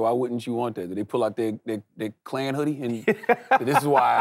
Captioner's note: Trevor laughs